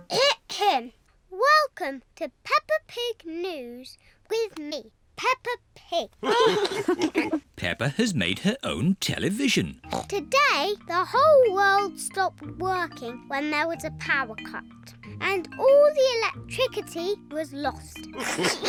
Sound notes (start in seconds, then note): 6.2 all laugh; 18.2 all laugh